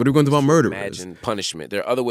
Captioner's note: soundbite of archived npr broadcast